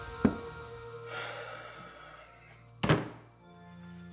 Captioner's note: Mick sighing